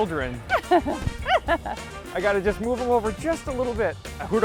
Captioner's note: laughing